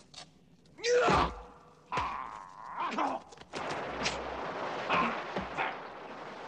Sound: hitting; yelling; grunting; hitting

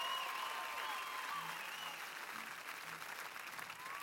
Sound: cheers and applause

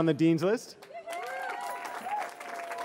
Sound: cheering

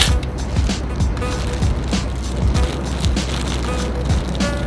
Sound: plastic rustling

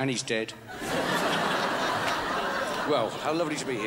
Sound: crowd laughs

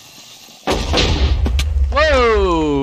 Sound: creeper tssssss; back to back explosions

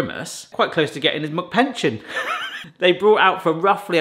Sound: laughs

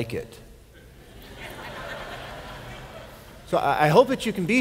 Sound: laughter

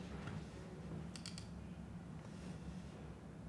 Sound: mouse clicks

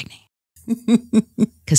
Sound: laughs

